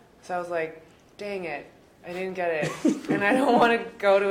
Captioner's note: men laugh